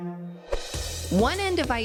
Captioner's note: low pitch sound